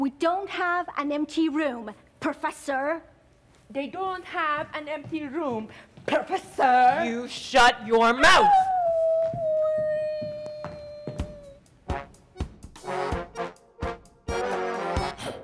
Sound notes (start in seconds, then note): 8.7 Sharik softly whimpering; 11.8 light whimsical folk music